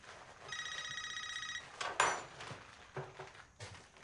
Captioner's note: telephone ringing